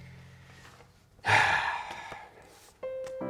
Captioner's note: sigh